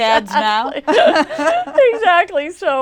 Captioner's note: laughter